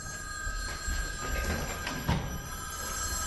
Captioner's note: phones ring constantly